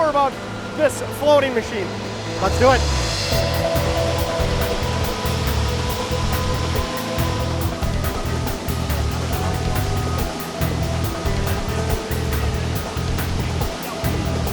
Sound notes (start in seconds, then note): 3.7 pan rider whirling; 8.6 machine swooshing